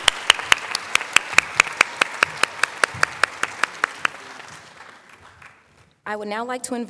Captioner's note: applause